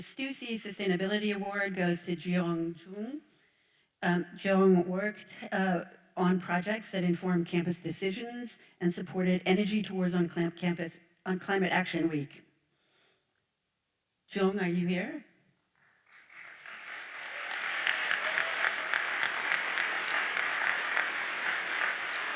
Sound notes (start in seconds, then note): 16.0 audience applauds